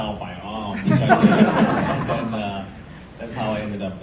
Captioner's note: audience laughs